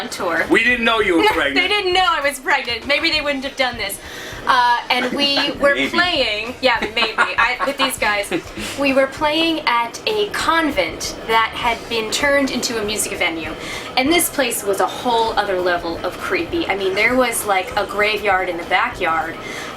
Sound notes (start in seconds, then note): 4.8 laughs